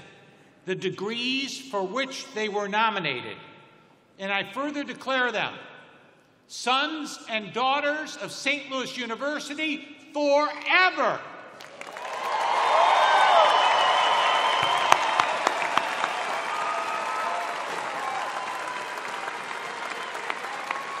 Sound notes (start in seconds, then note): 4.0 cheers and applause